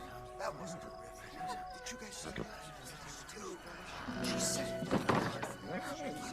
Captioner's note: horses whispering